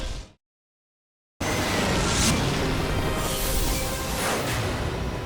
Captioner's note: logo squishes